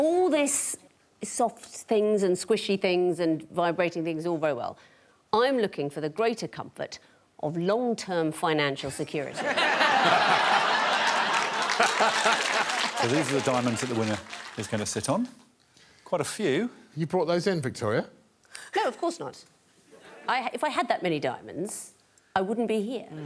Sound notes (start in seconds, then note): 9.3 laughter